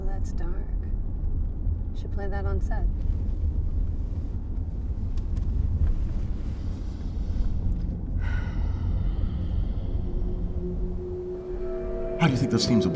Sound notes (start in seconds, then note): 7.3 tense ominous music; 8.2 Abigail sighing